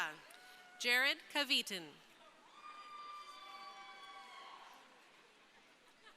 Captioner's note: crowd cheering